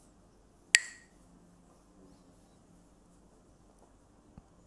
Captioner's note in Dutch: klakt met stokjes